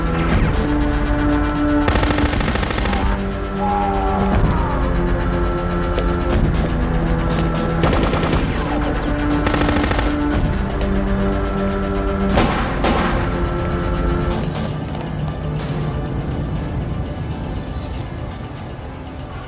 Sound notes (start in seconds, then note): 7.8 machine gun firing; 12.5 pistol firing; 16.5 ominous music